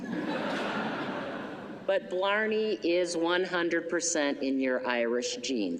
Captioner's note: laughter